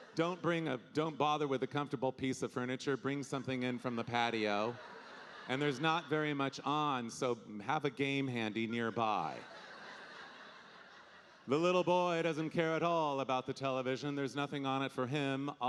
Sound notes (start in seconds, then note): 8.0 audience laughing